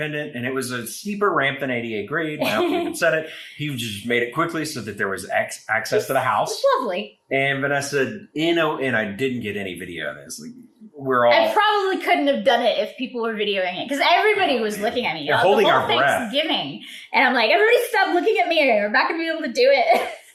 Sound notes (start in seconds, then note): 2.4 laughing